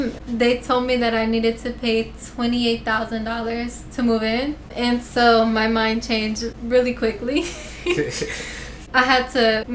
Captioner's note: laughter